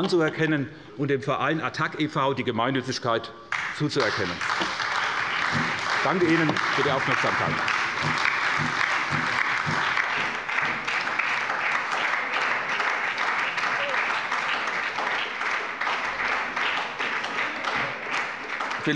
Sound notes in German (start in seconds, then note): 7.4 Anhaltender Beifall bei der SPD